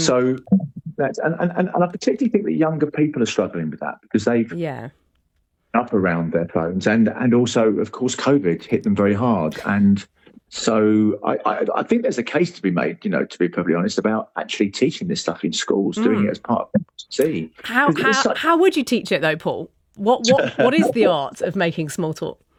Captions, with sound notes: So that... And, and, and, and I particularly think struggling with that because they've- Yeah ... up around their phones and, and also of course, And so I, I, I think there's a case to be made, perfectly honest about actually teaching this stuff in schools- Mm ... doing it as part of citizenship. 'Cause it's like- How, how, how would you teach it though, Paul? What, what- [laughs] ... what is the art of making small talk?